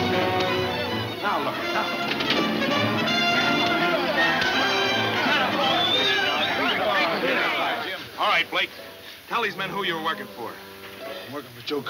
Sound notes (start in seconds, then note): 0.0 dramatic music; 0.0 men shouting; 1.9 dramatic music; 2.9 men shouting; 5.1 man whistles